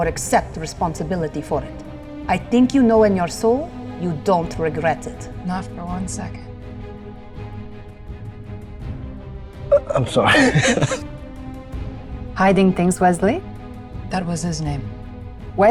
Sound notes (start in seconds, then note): 9.7 laughs